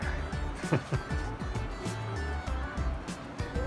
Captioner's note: laughs